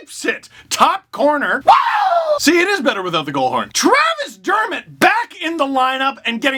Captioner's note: scream